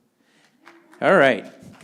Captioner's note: audience applauding